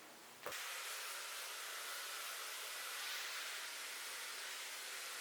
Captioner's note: hairdryer whooshing